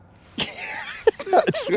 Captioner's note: laughing